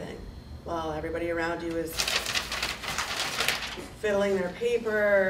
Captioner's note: paper rattling